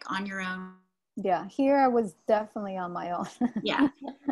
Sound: laughs

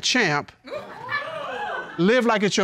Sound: audience laughing, hooting

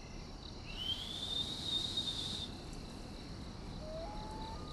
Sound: whistling

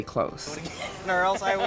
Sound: laughs

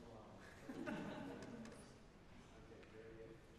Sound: scattered laughing

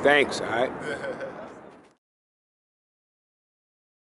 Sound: chuckling

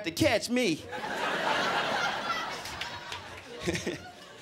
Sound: crowd laughing

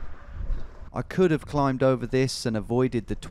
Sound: voiceover

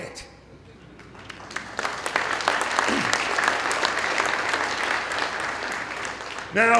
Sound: applause

